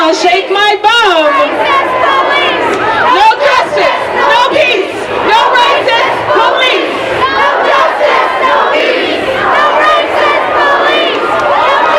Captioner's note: chanting